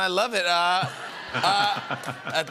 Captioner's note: laughter